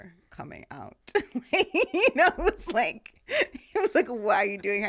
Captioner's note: laughing